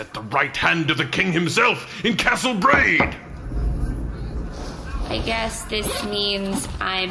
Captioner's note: unzipping purse